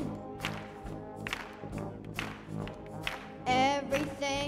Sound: audience applauding

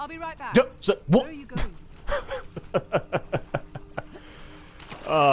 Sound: long chuckle

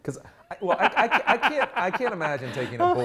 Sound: laughs

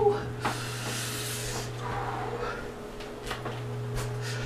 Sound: exhales

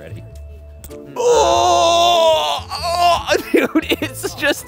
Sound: gagging

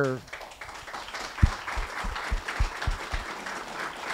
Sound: applause

